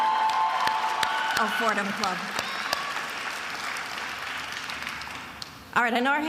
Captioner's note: attendees applauding and cheering